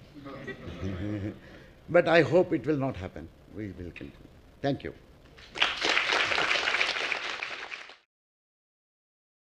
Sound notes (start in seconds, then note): 0.2 laugh; 5.4 applause